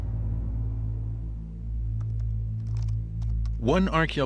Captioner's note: typing